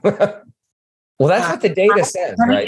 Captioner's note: laughing